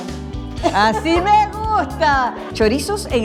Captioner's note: laugh